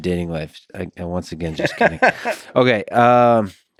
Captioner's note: Tim laughs